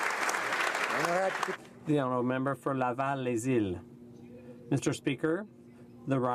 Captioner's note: applause